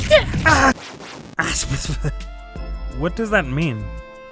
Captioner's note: sputters